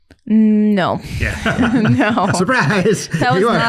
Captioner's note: all laughing